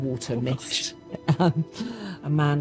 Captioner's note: laughs